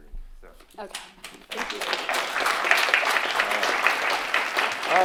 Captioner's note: applause